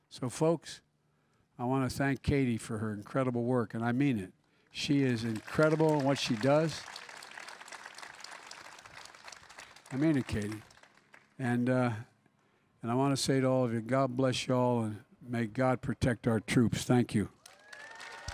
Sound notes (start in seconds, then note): 7.3 applause